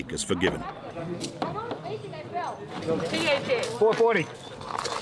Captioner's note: people chattering